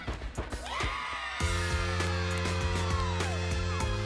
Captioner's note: team cheering